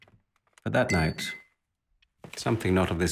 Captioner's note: glass clinks